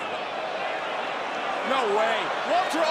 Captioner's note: crowd cheering